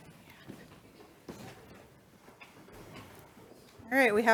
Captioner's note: chairs rustling